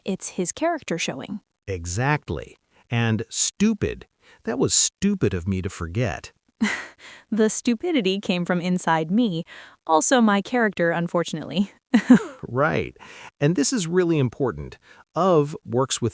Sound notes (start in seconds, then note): 5.9 laughs; 12.0 laughs